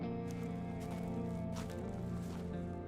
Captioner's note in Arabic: خطوات بطيئة